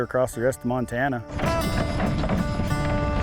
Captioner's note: wagon rattling; gentle country music continues